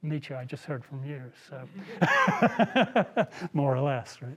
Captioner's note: laughs